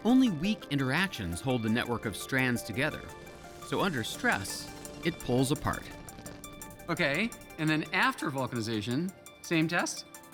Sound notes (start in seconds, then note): none